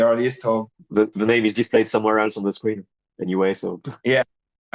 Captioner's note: chuckles